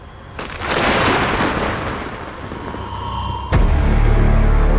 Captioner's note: thunder booms as eerie sound rises; fearful music